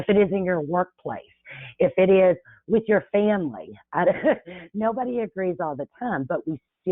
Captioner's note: chuckles